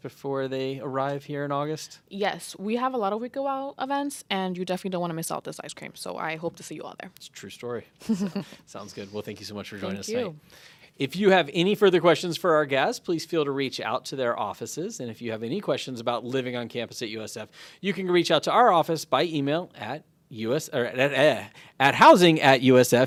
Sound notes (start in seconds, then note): 8.0 chuckles